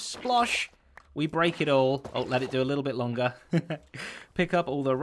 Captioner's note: chuckles